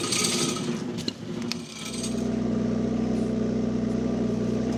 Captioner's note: engine rumbling